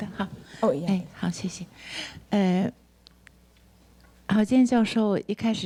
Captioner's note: speaks Mandarin